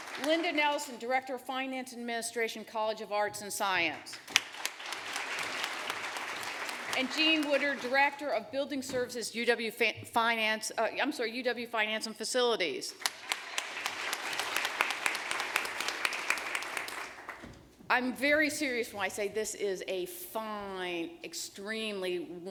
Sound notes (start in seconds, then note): 4.1 applause; 13.0 applause